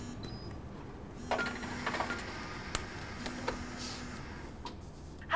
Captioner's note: phone's buzzing